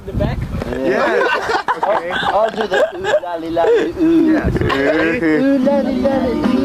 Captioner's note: laughs